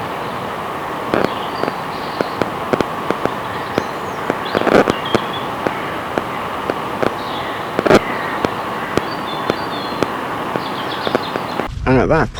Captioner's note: loud, heavy and prolonged clicking and crackling